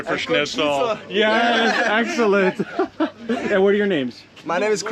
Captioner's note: laughs